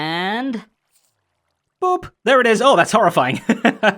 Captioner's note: normal voice; chuckles